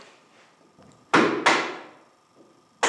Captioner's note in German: Hämmern